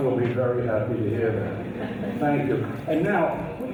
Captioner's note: audience laughs